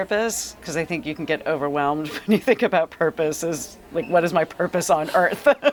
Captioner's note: laugh